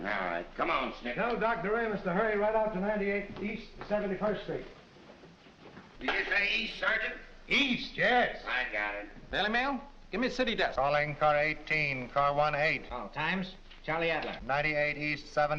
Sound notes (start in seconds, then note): none